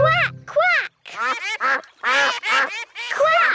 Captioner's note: quacking